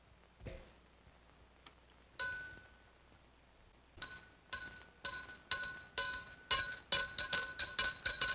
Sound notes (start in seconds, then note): 2.2 bell rings once; 3.8 ringing intensifies